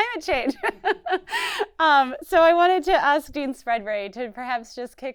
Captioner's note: laughs